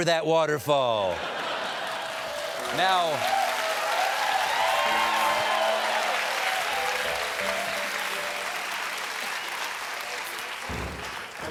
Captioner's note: laughter; cheers and applause